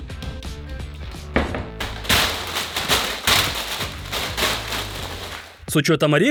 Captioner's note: Sounds of a lot of peanuts